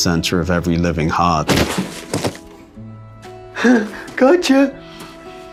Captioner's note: body thuds